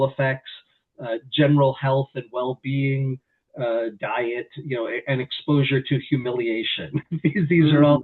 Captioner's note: laughs